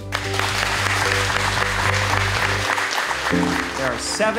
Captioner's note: audience applauding